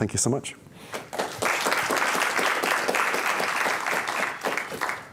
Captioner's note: applause